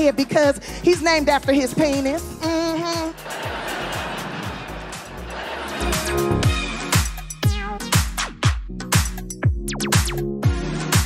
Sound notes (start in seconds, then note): 2.5 laughing; 6.0 electronic pop music